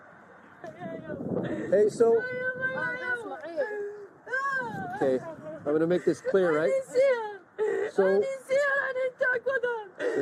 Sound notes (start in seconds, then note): 2.2 speaking Arabic